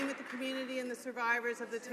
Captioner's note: some Applause